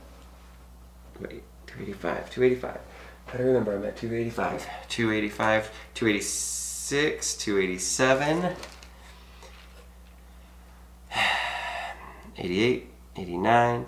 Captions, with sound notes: Wait, 285, 285. I gotta remember, I'm at 285. 285, 286, 287. (sighs) 88, 89, 90,